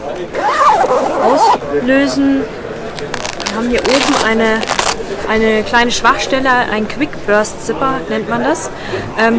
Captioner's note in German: schnell platzender Reißverschluss